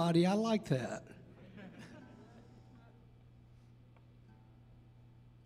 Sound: audience laughing

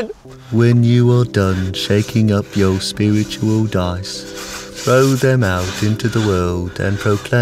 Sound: sound of CD talking

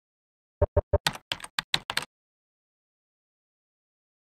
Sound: typewriter clacks

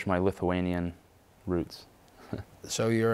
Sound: chuckles

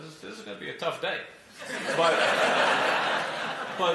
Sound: laughter

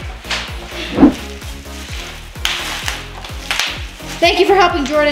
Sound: bubble wrap popping

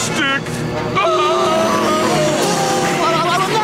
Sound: screaming

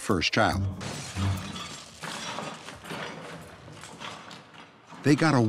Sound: crashing and shattering

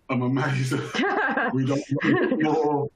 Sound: chuckles

